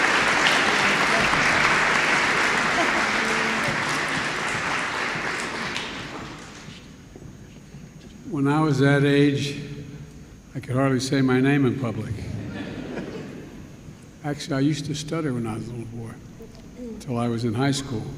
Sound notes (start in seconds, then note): 12.3 laughter